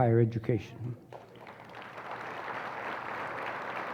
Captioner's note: applause